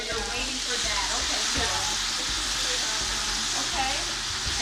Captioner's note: food steaming